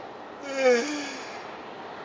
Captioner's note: moans